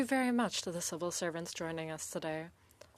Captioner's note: speaking French